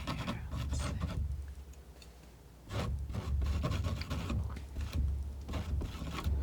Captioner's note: scratching